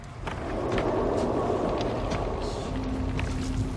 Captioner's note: wind whooshes